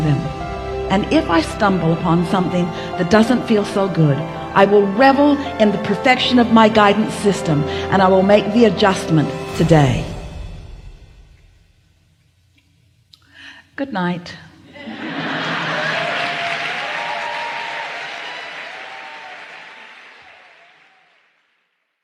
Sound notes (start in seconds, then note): 14.7 צחוק